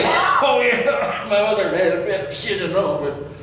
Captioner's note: coughs